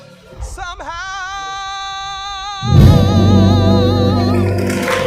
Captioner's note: congregation applauds